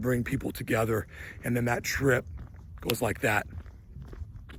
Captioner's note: snaps fingers